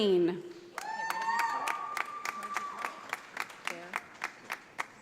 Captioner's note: audience applauding